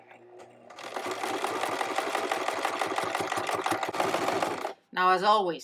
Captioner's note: sewing machine tapping